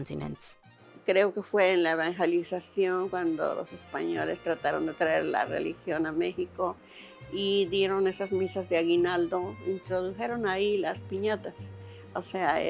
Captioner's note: speaking Spanish